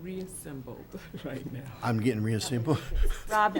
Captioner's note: laughs